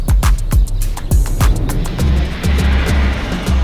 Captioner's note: birds chirping; upbeat music